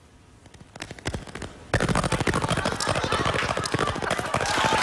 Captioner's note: repetitive static; cheers and applause